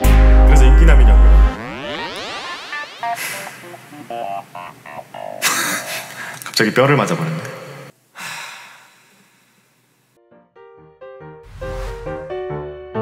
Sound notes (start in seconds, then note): 8.2 sigh